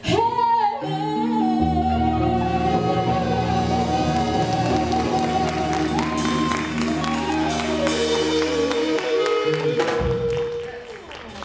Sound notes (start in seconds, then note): 3.9 audience applauding